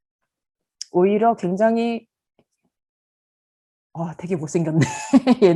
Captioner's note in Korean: 웃음